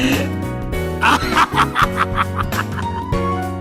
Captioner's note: laughing